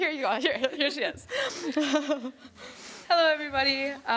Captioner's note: laughing